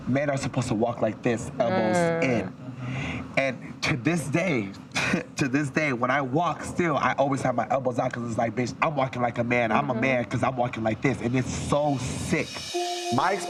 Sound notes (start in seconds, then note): 1.8 person mmhmms; 4.9 laughs; 9.7 person mmhmms